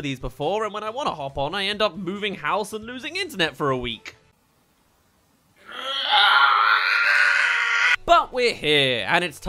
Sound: ahhhhhh

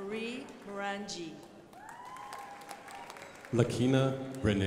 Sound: crowd applauding

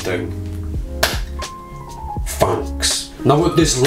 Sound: claps hands

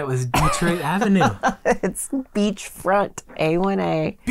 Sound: laughing

